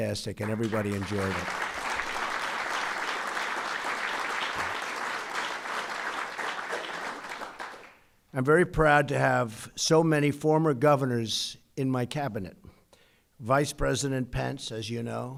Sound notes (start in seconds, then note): 4.7 applause